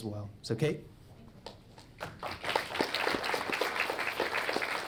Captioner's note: audience clapping